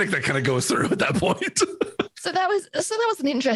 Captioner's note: laughs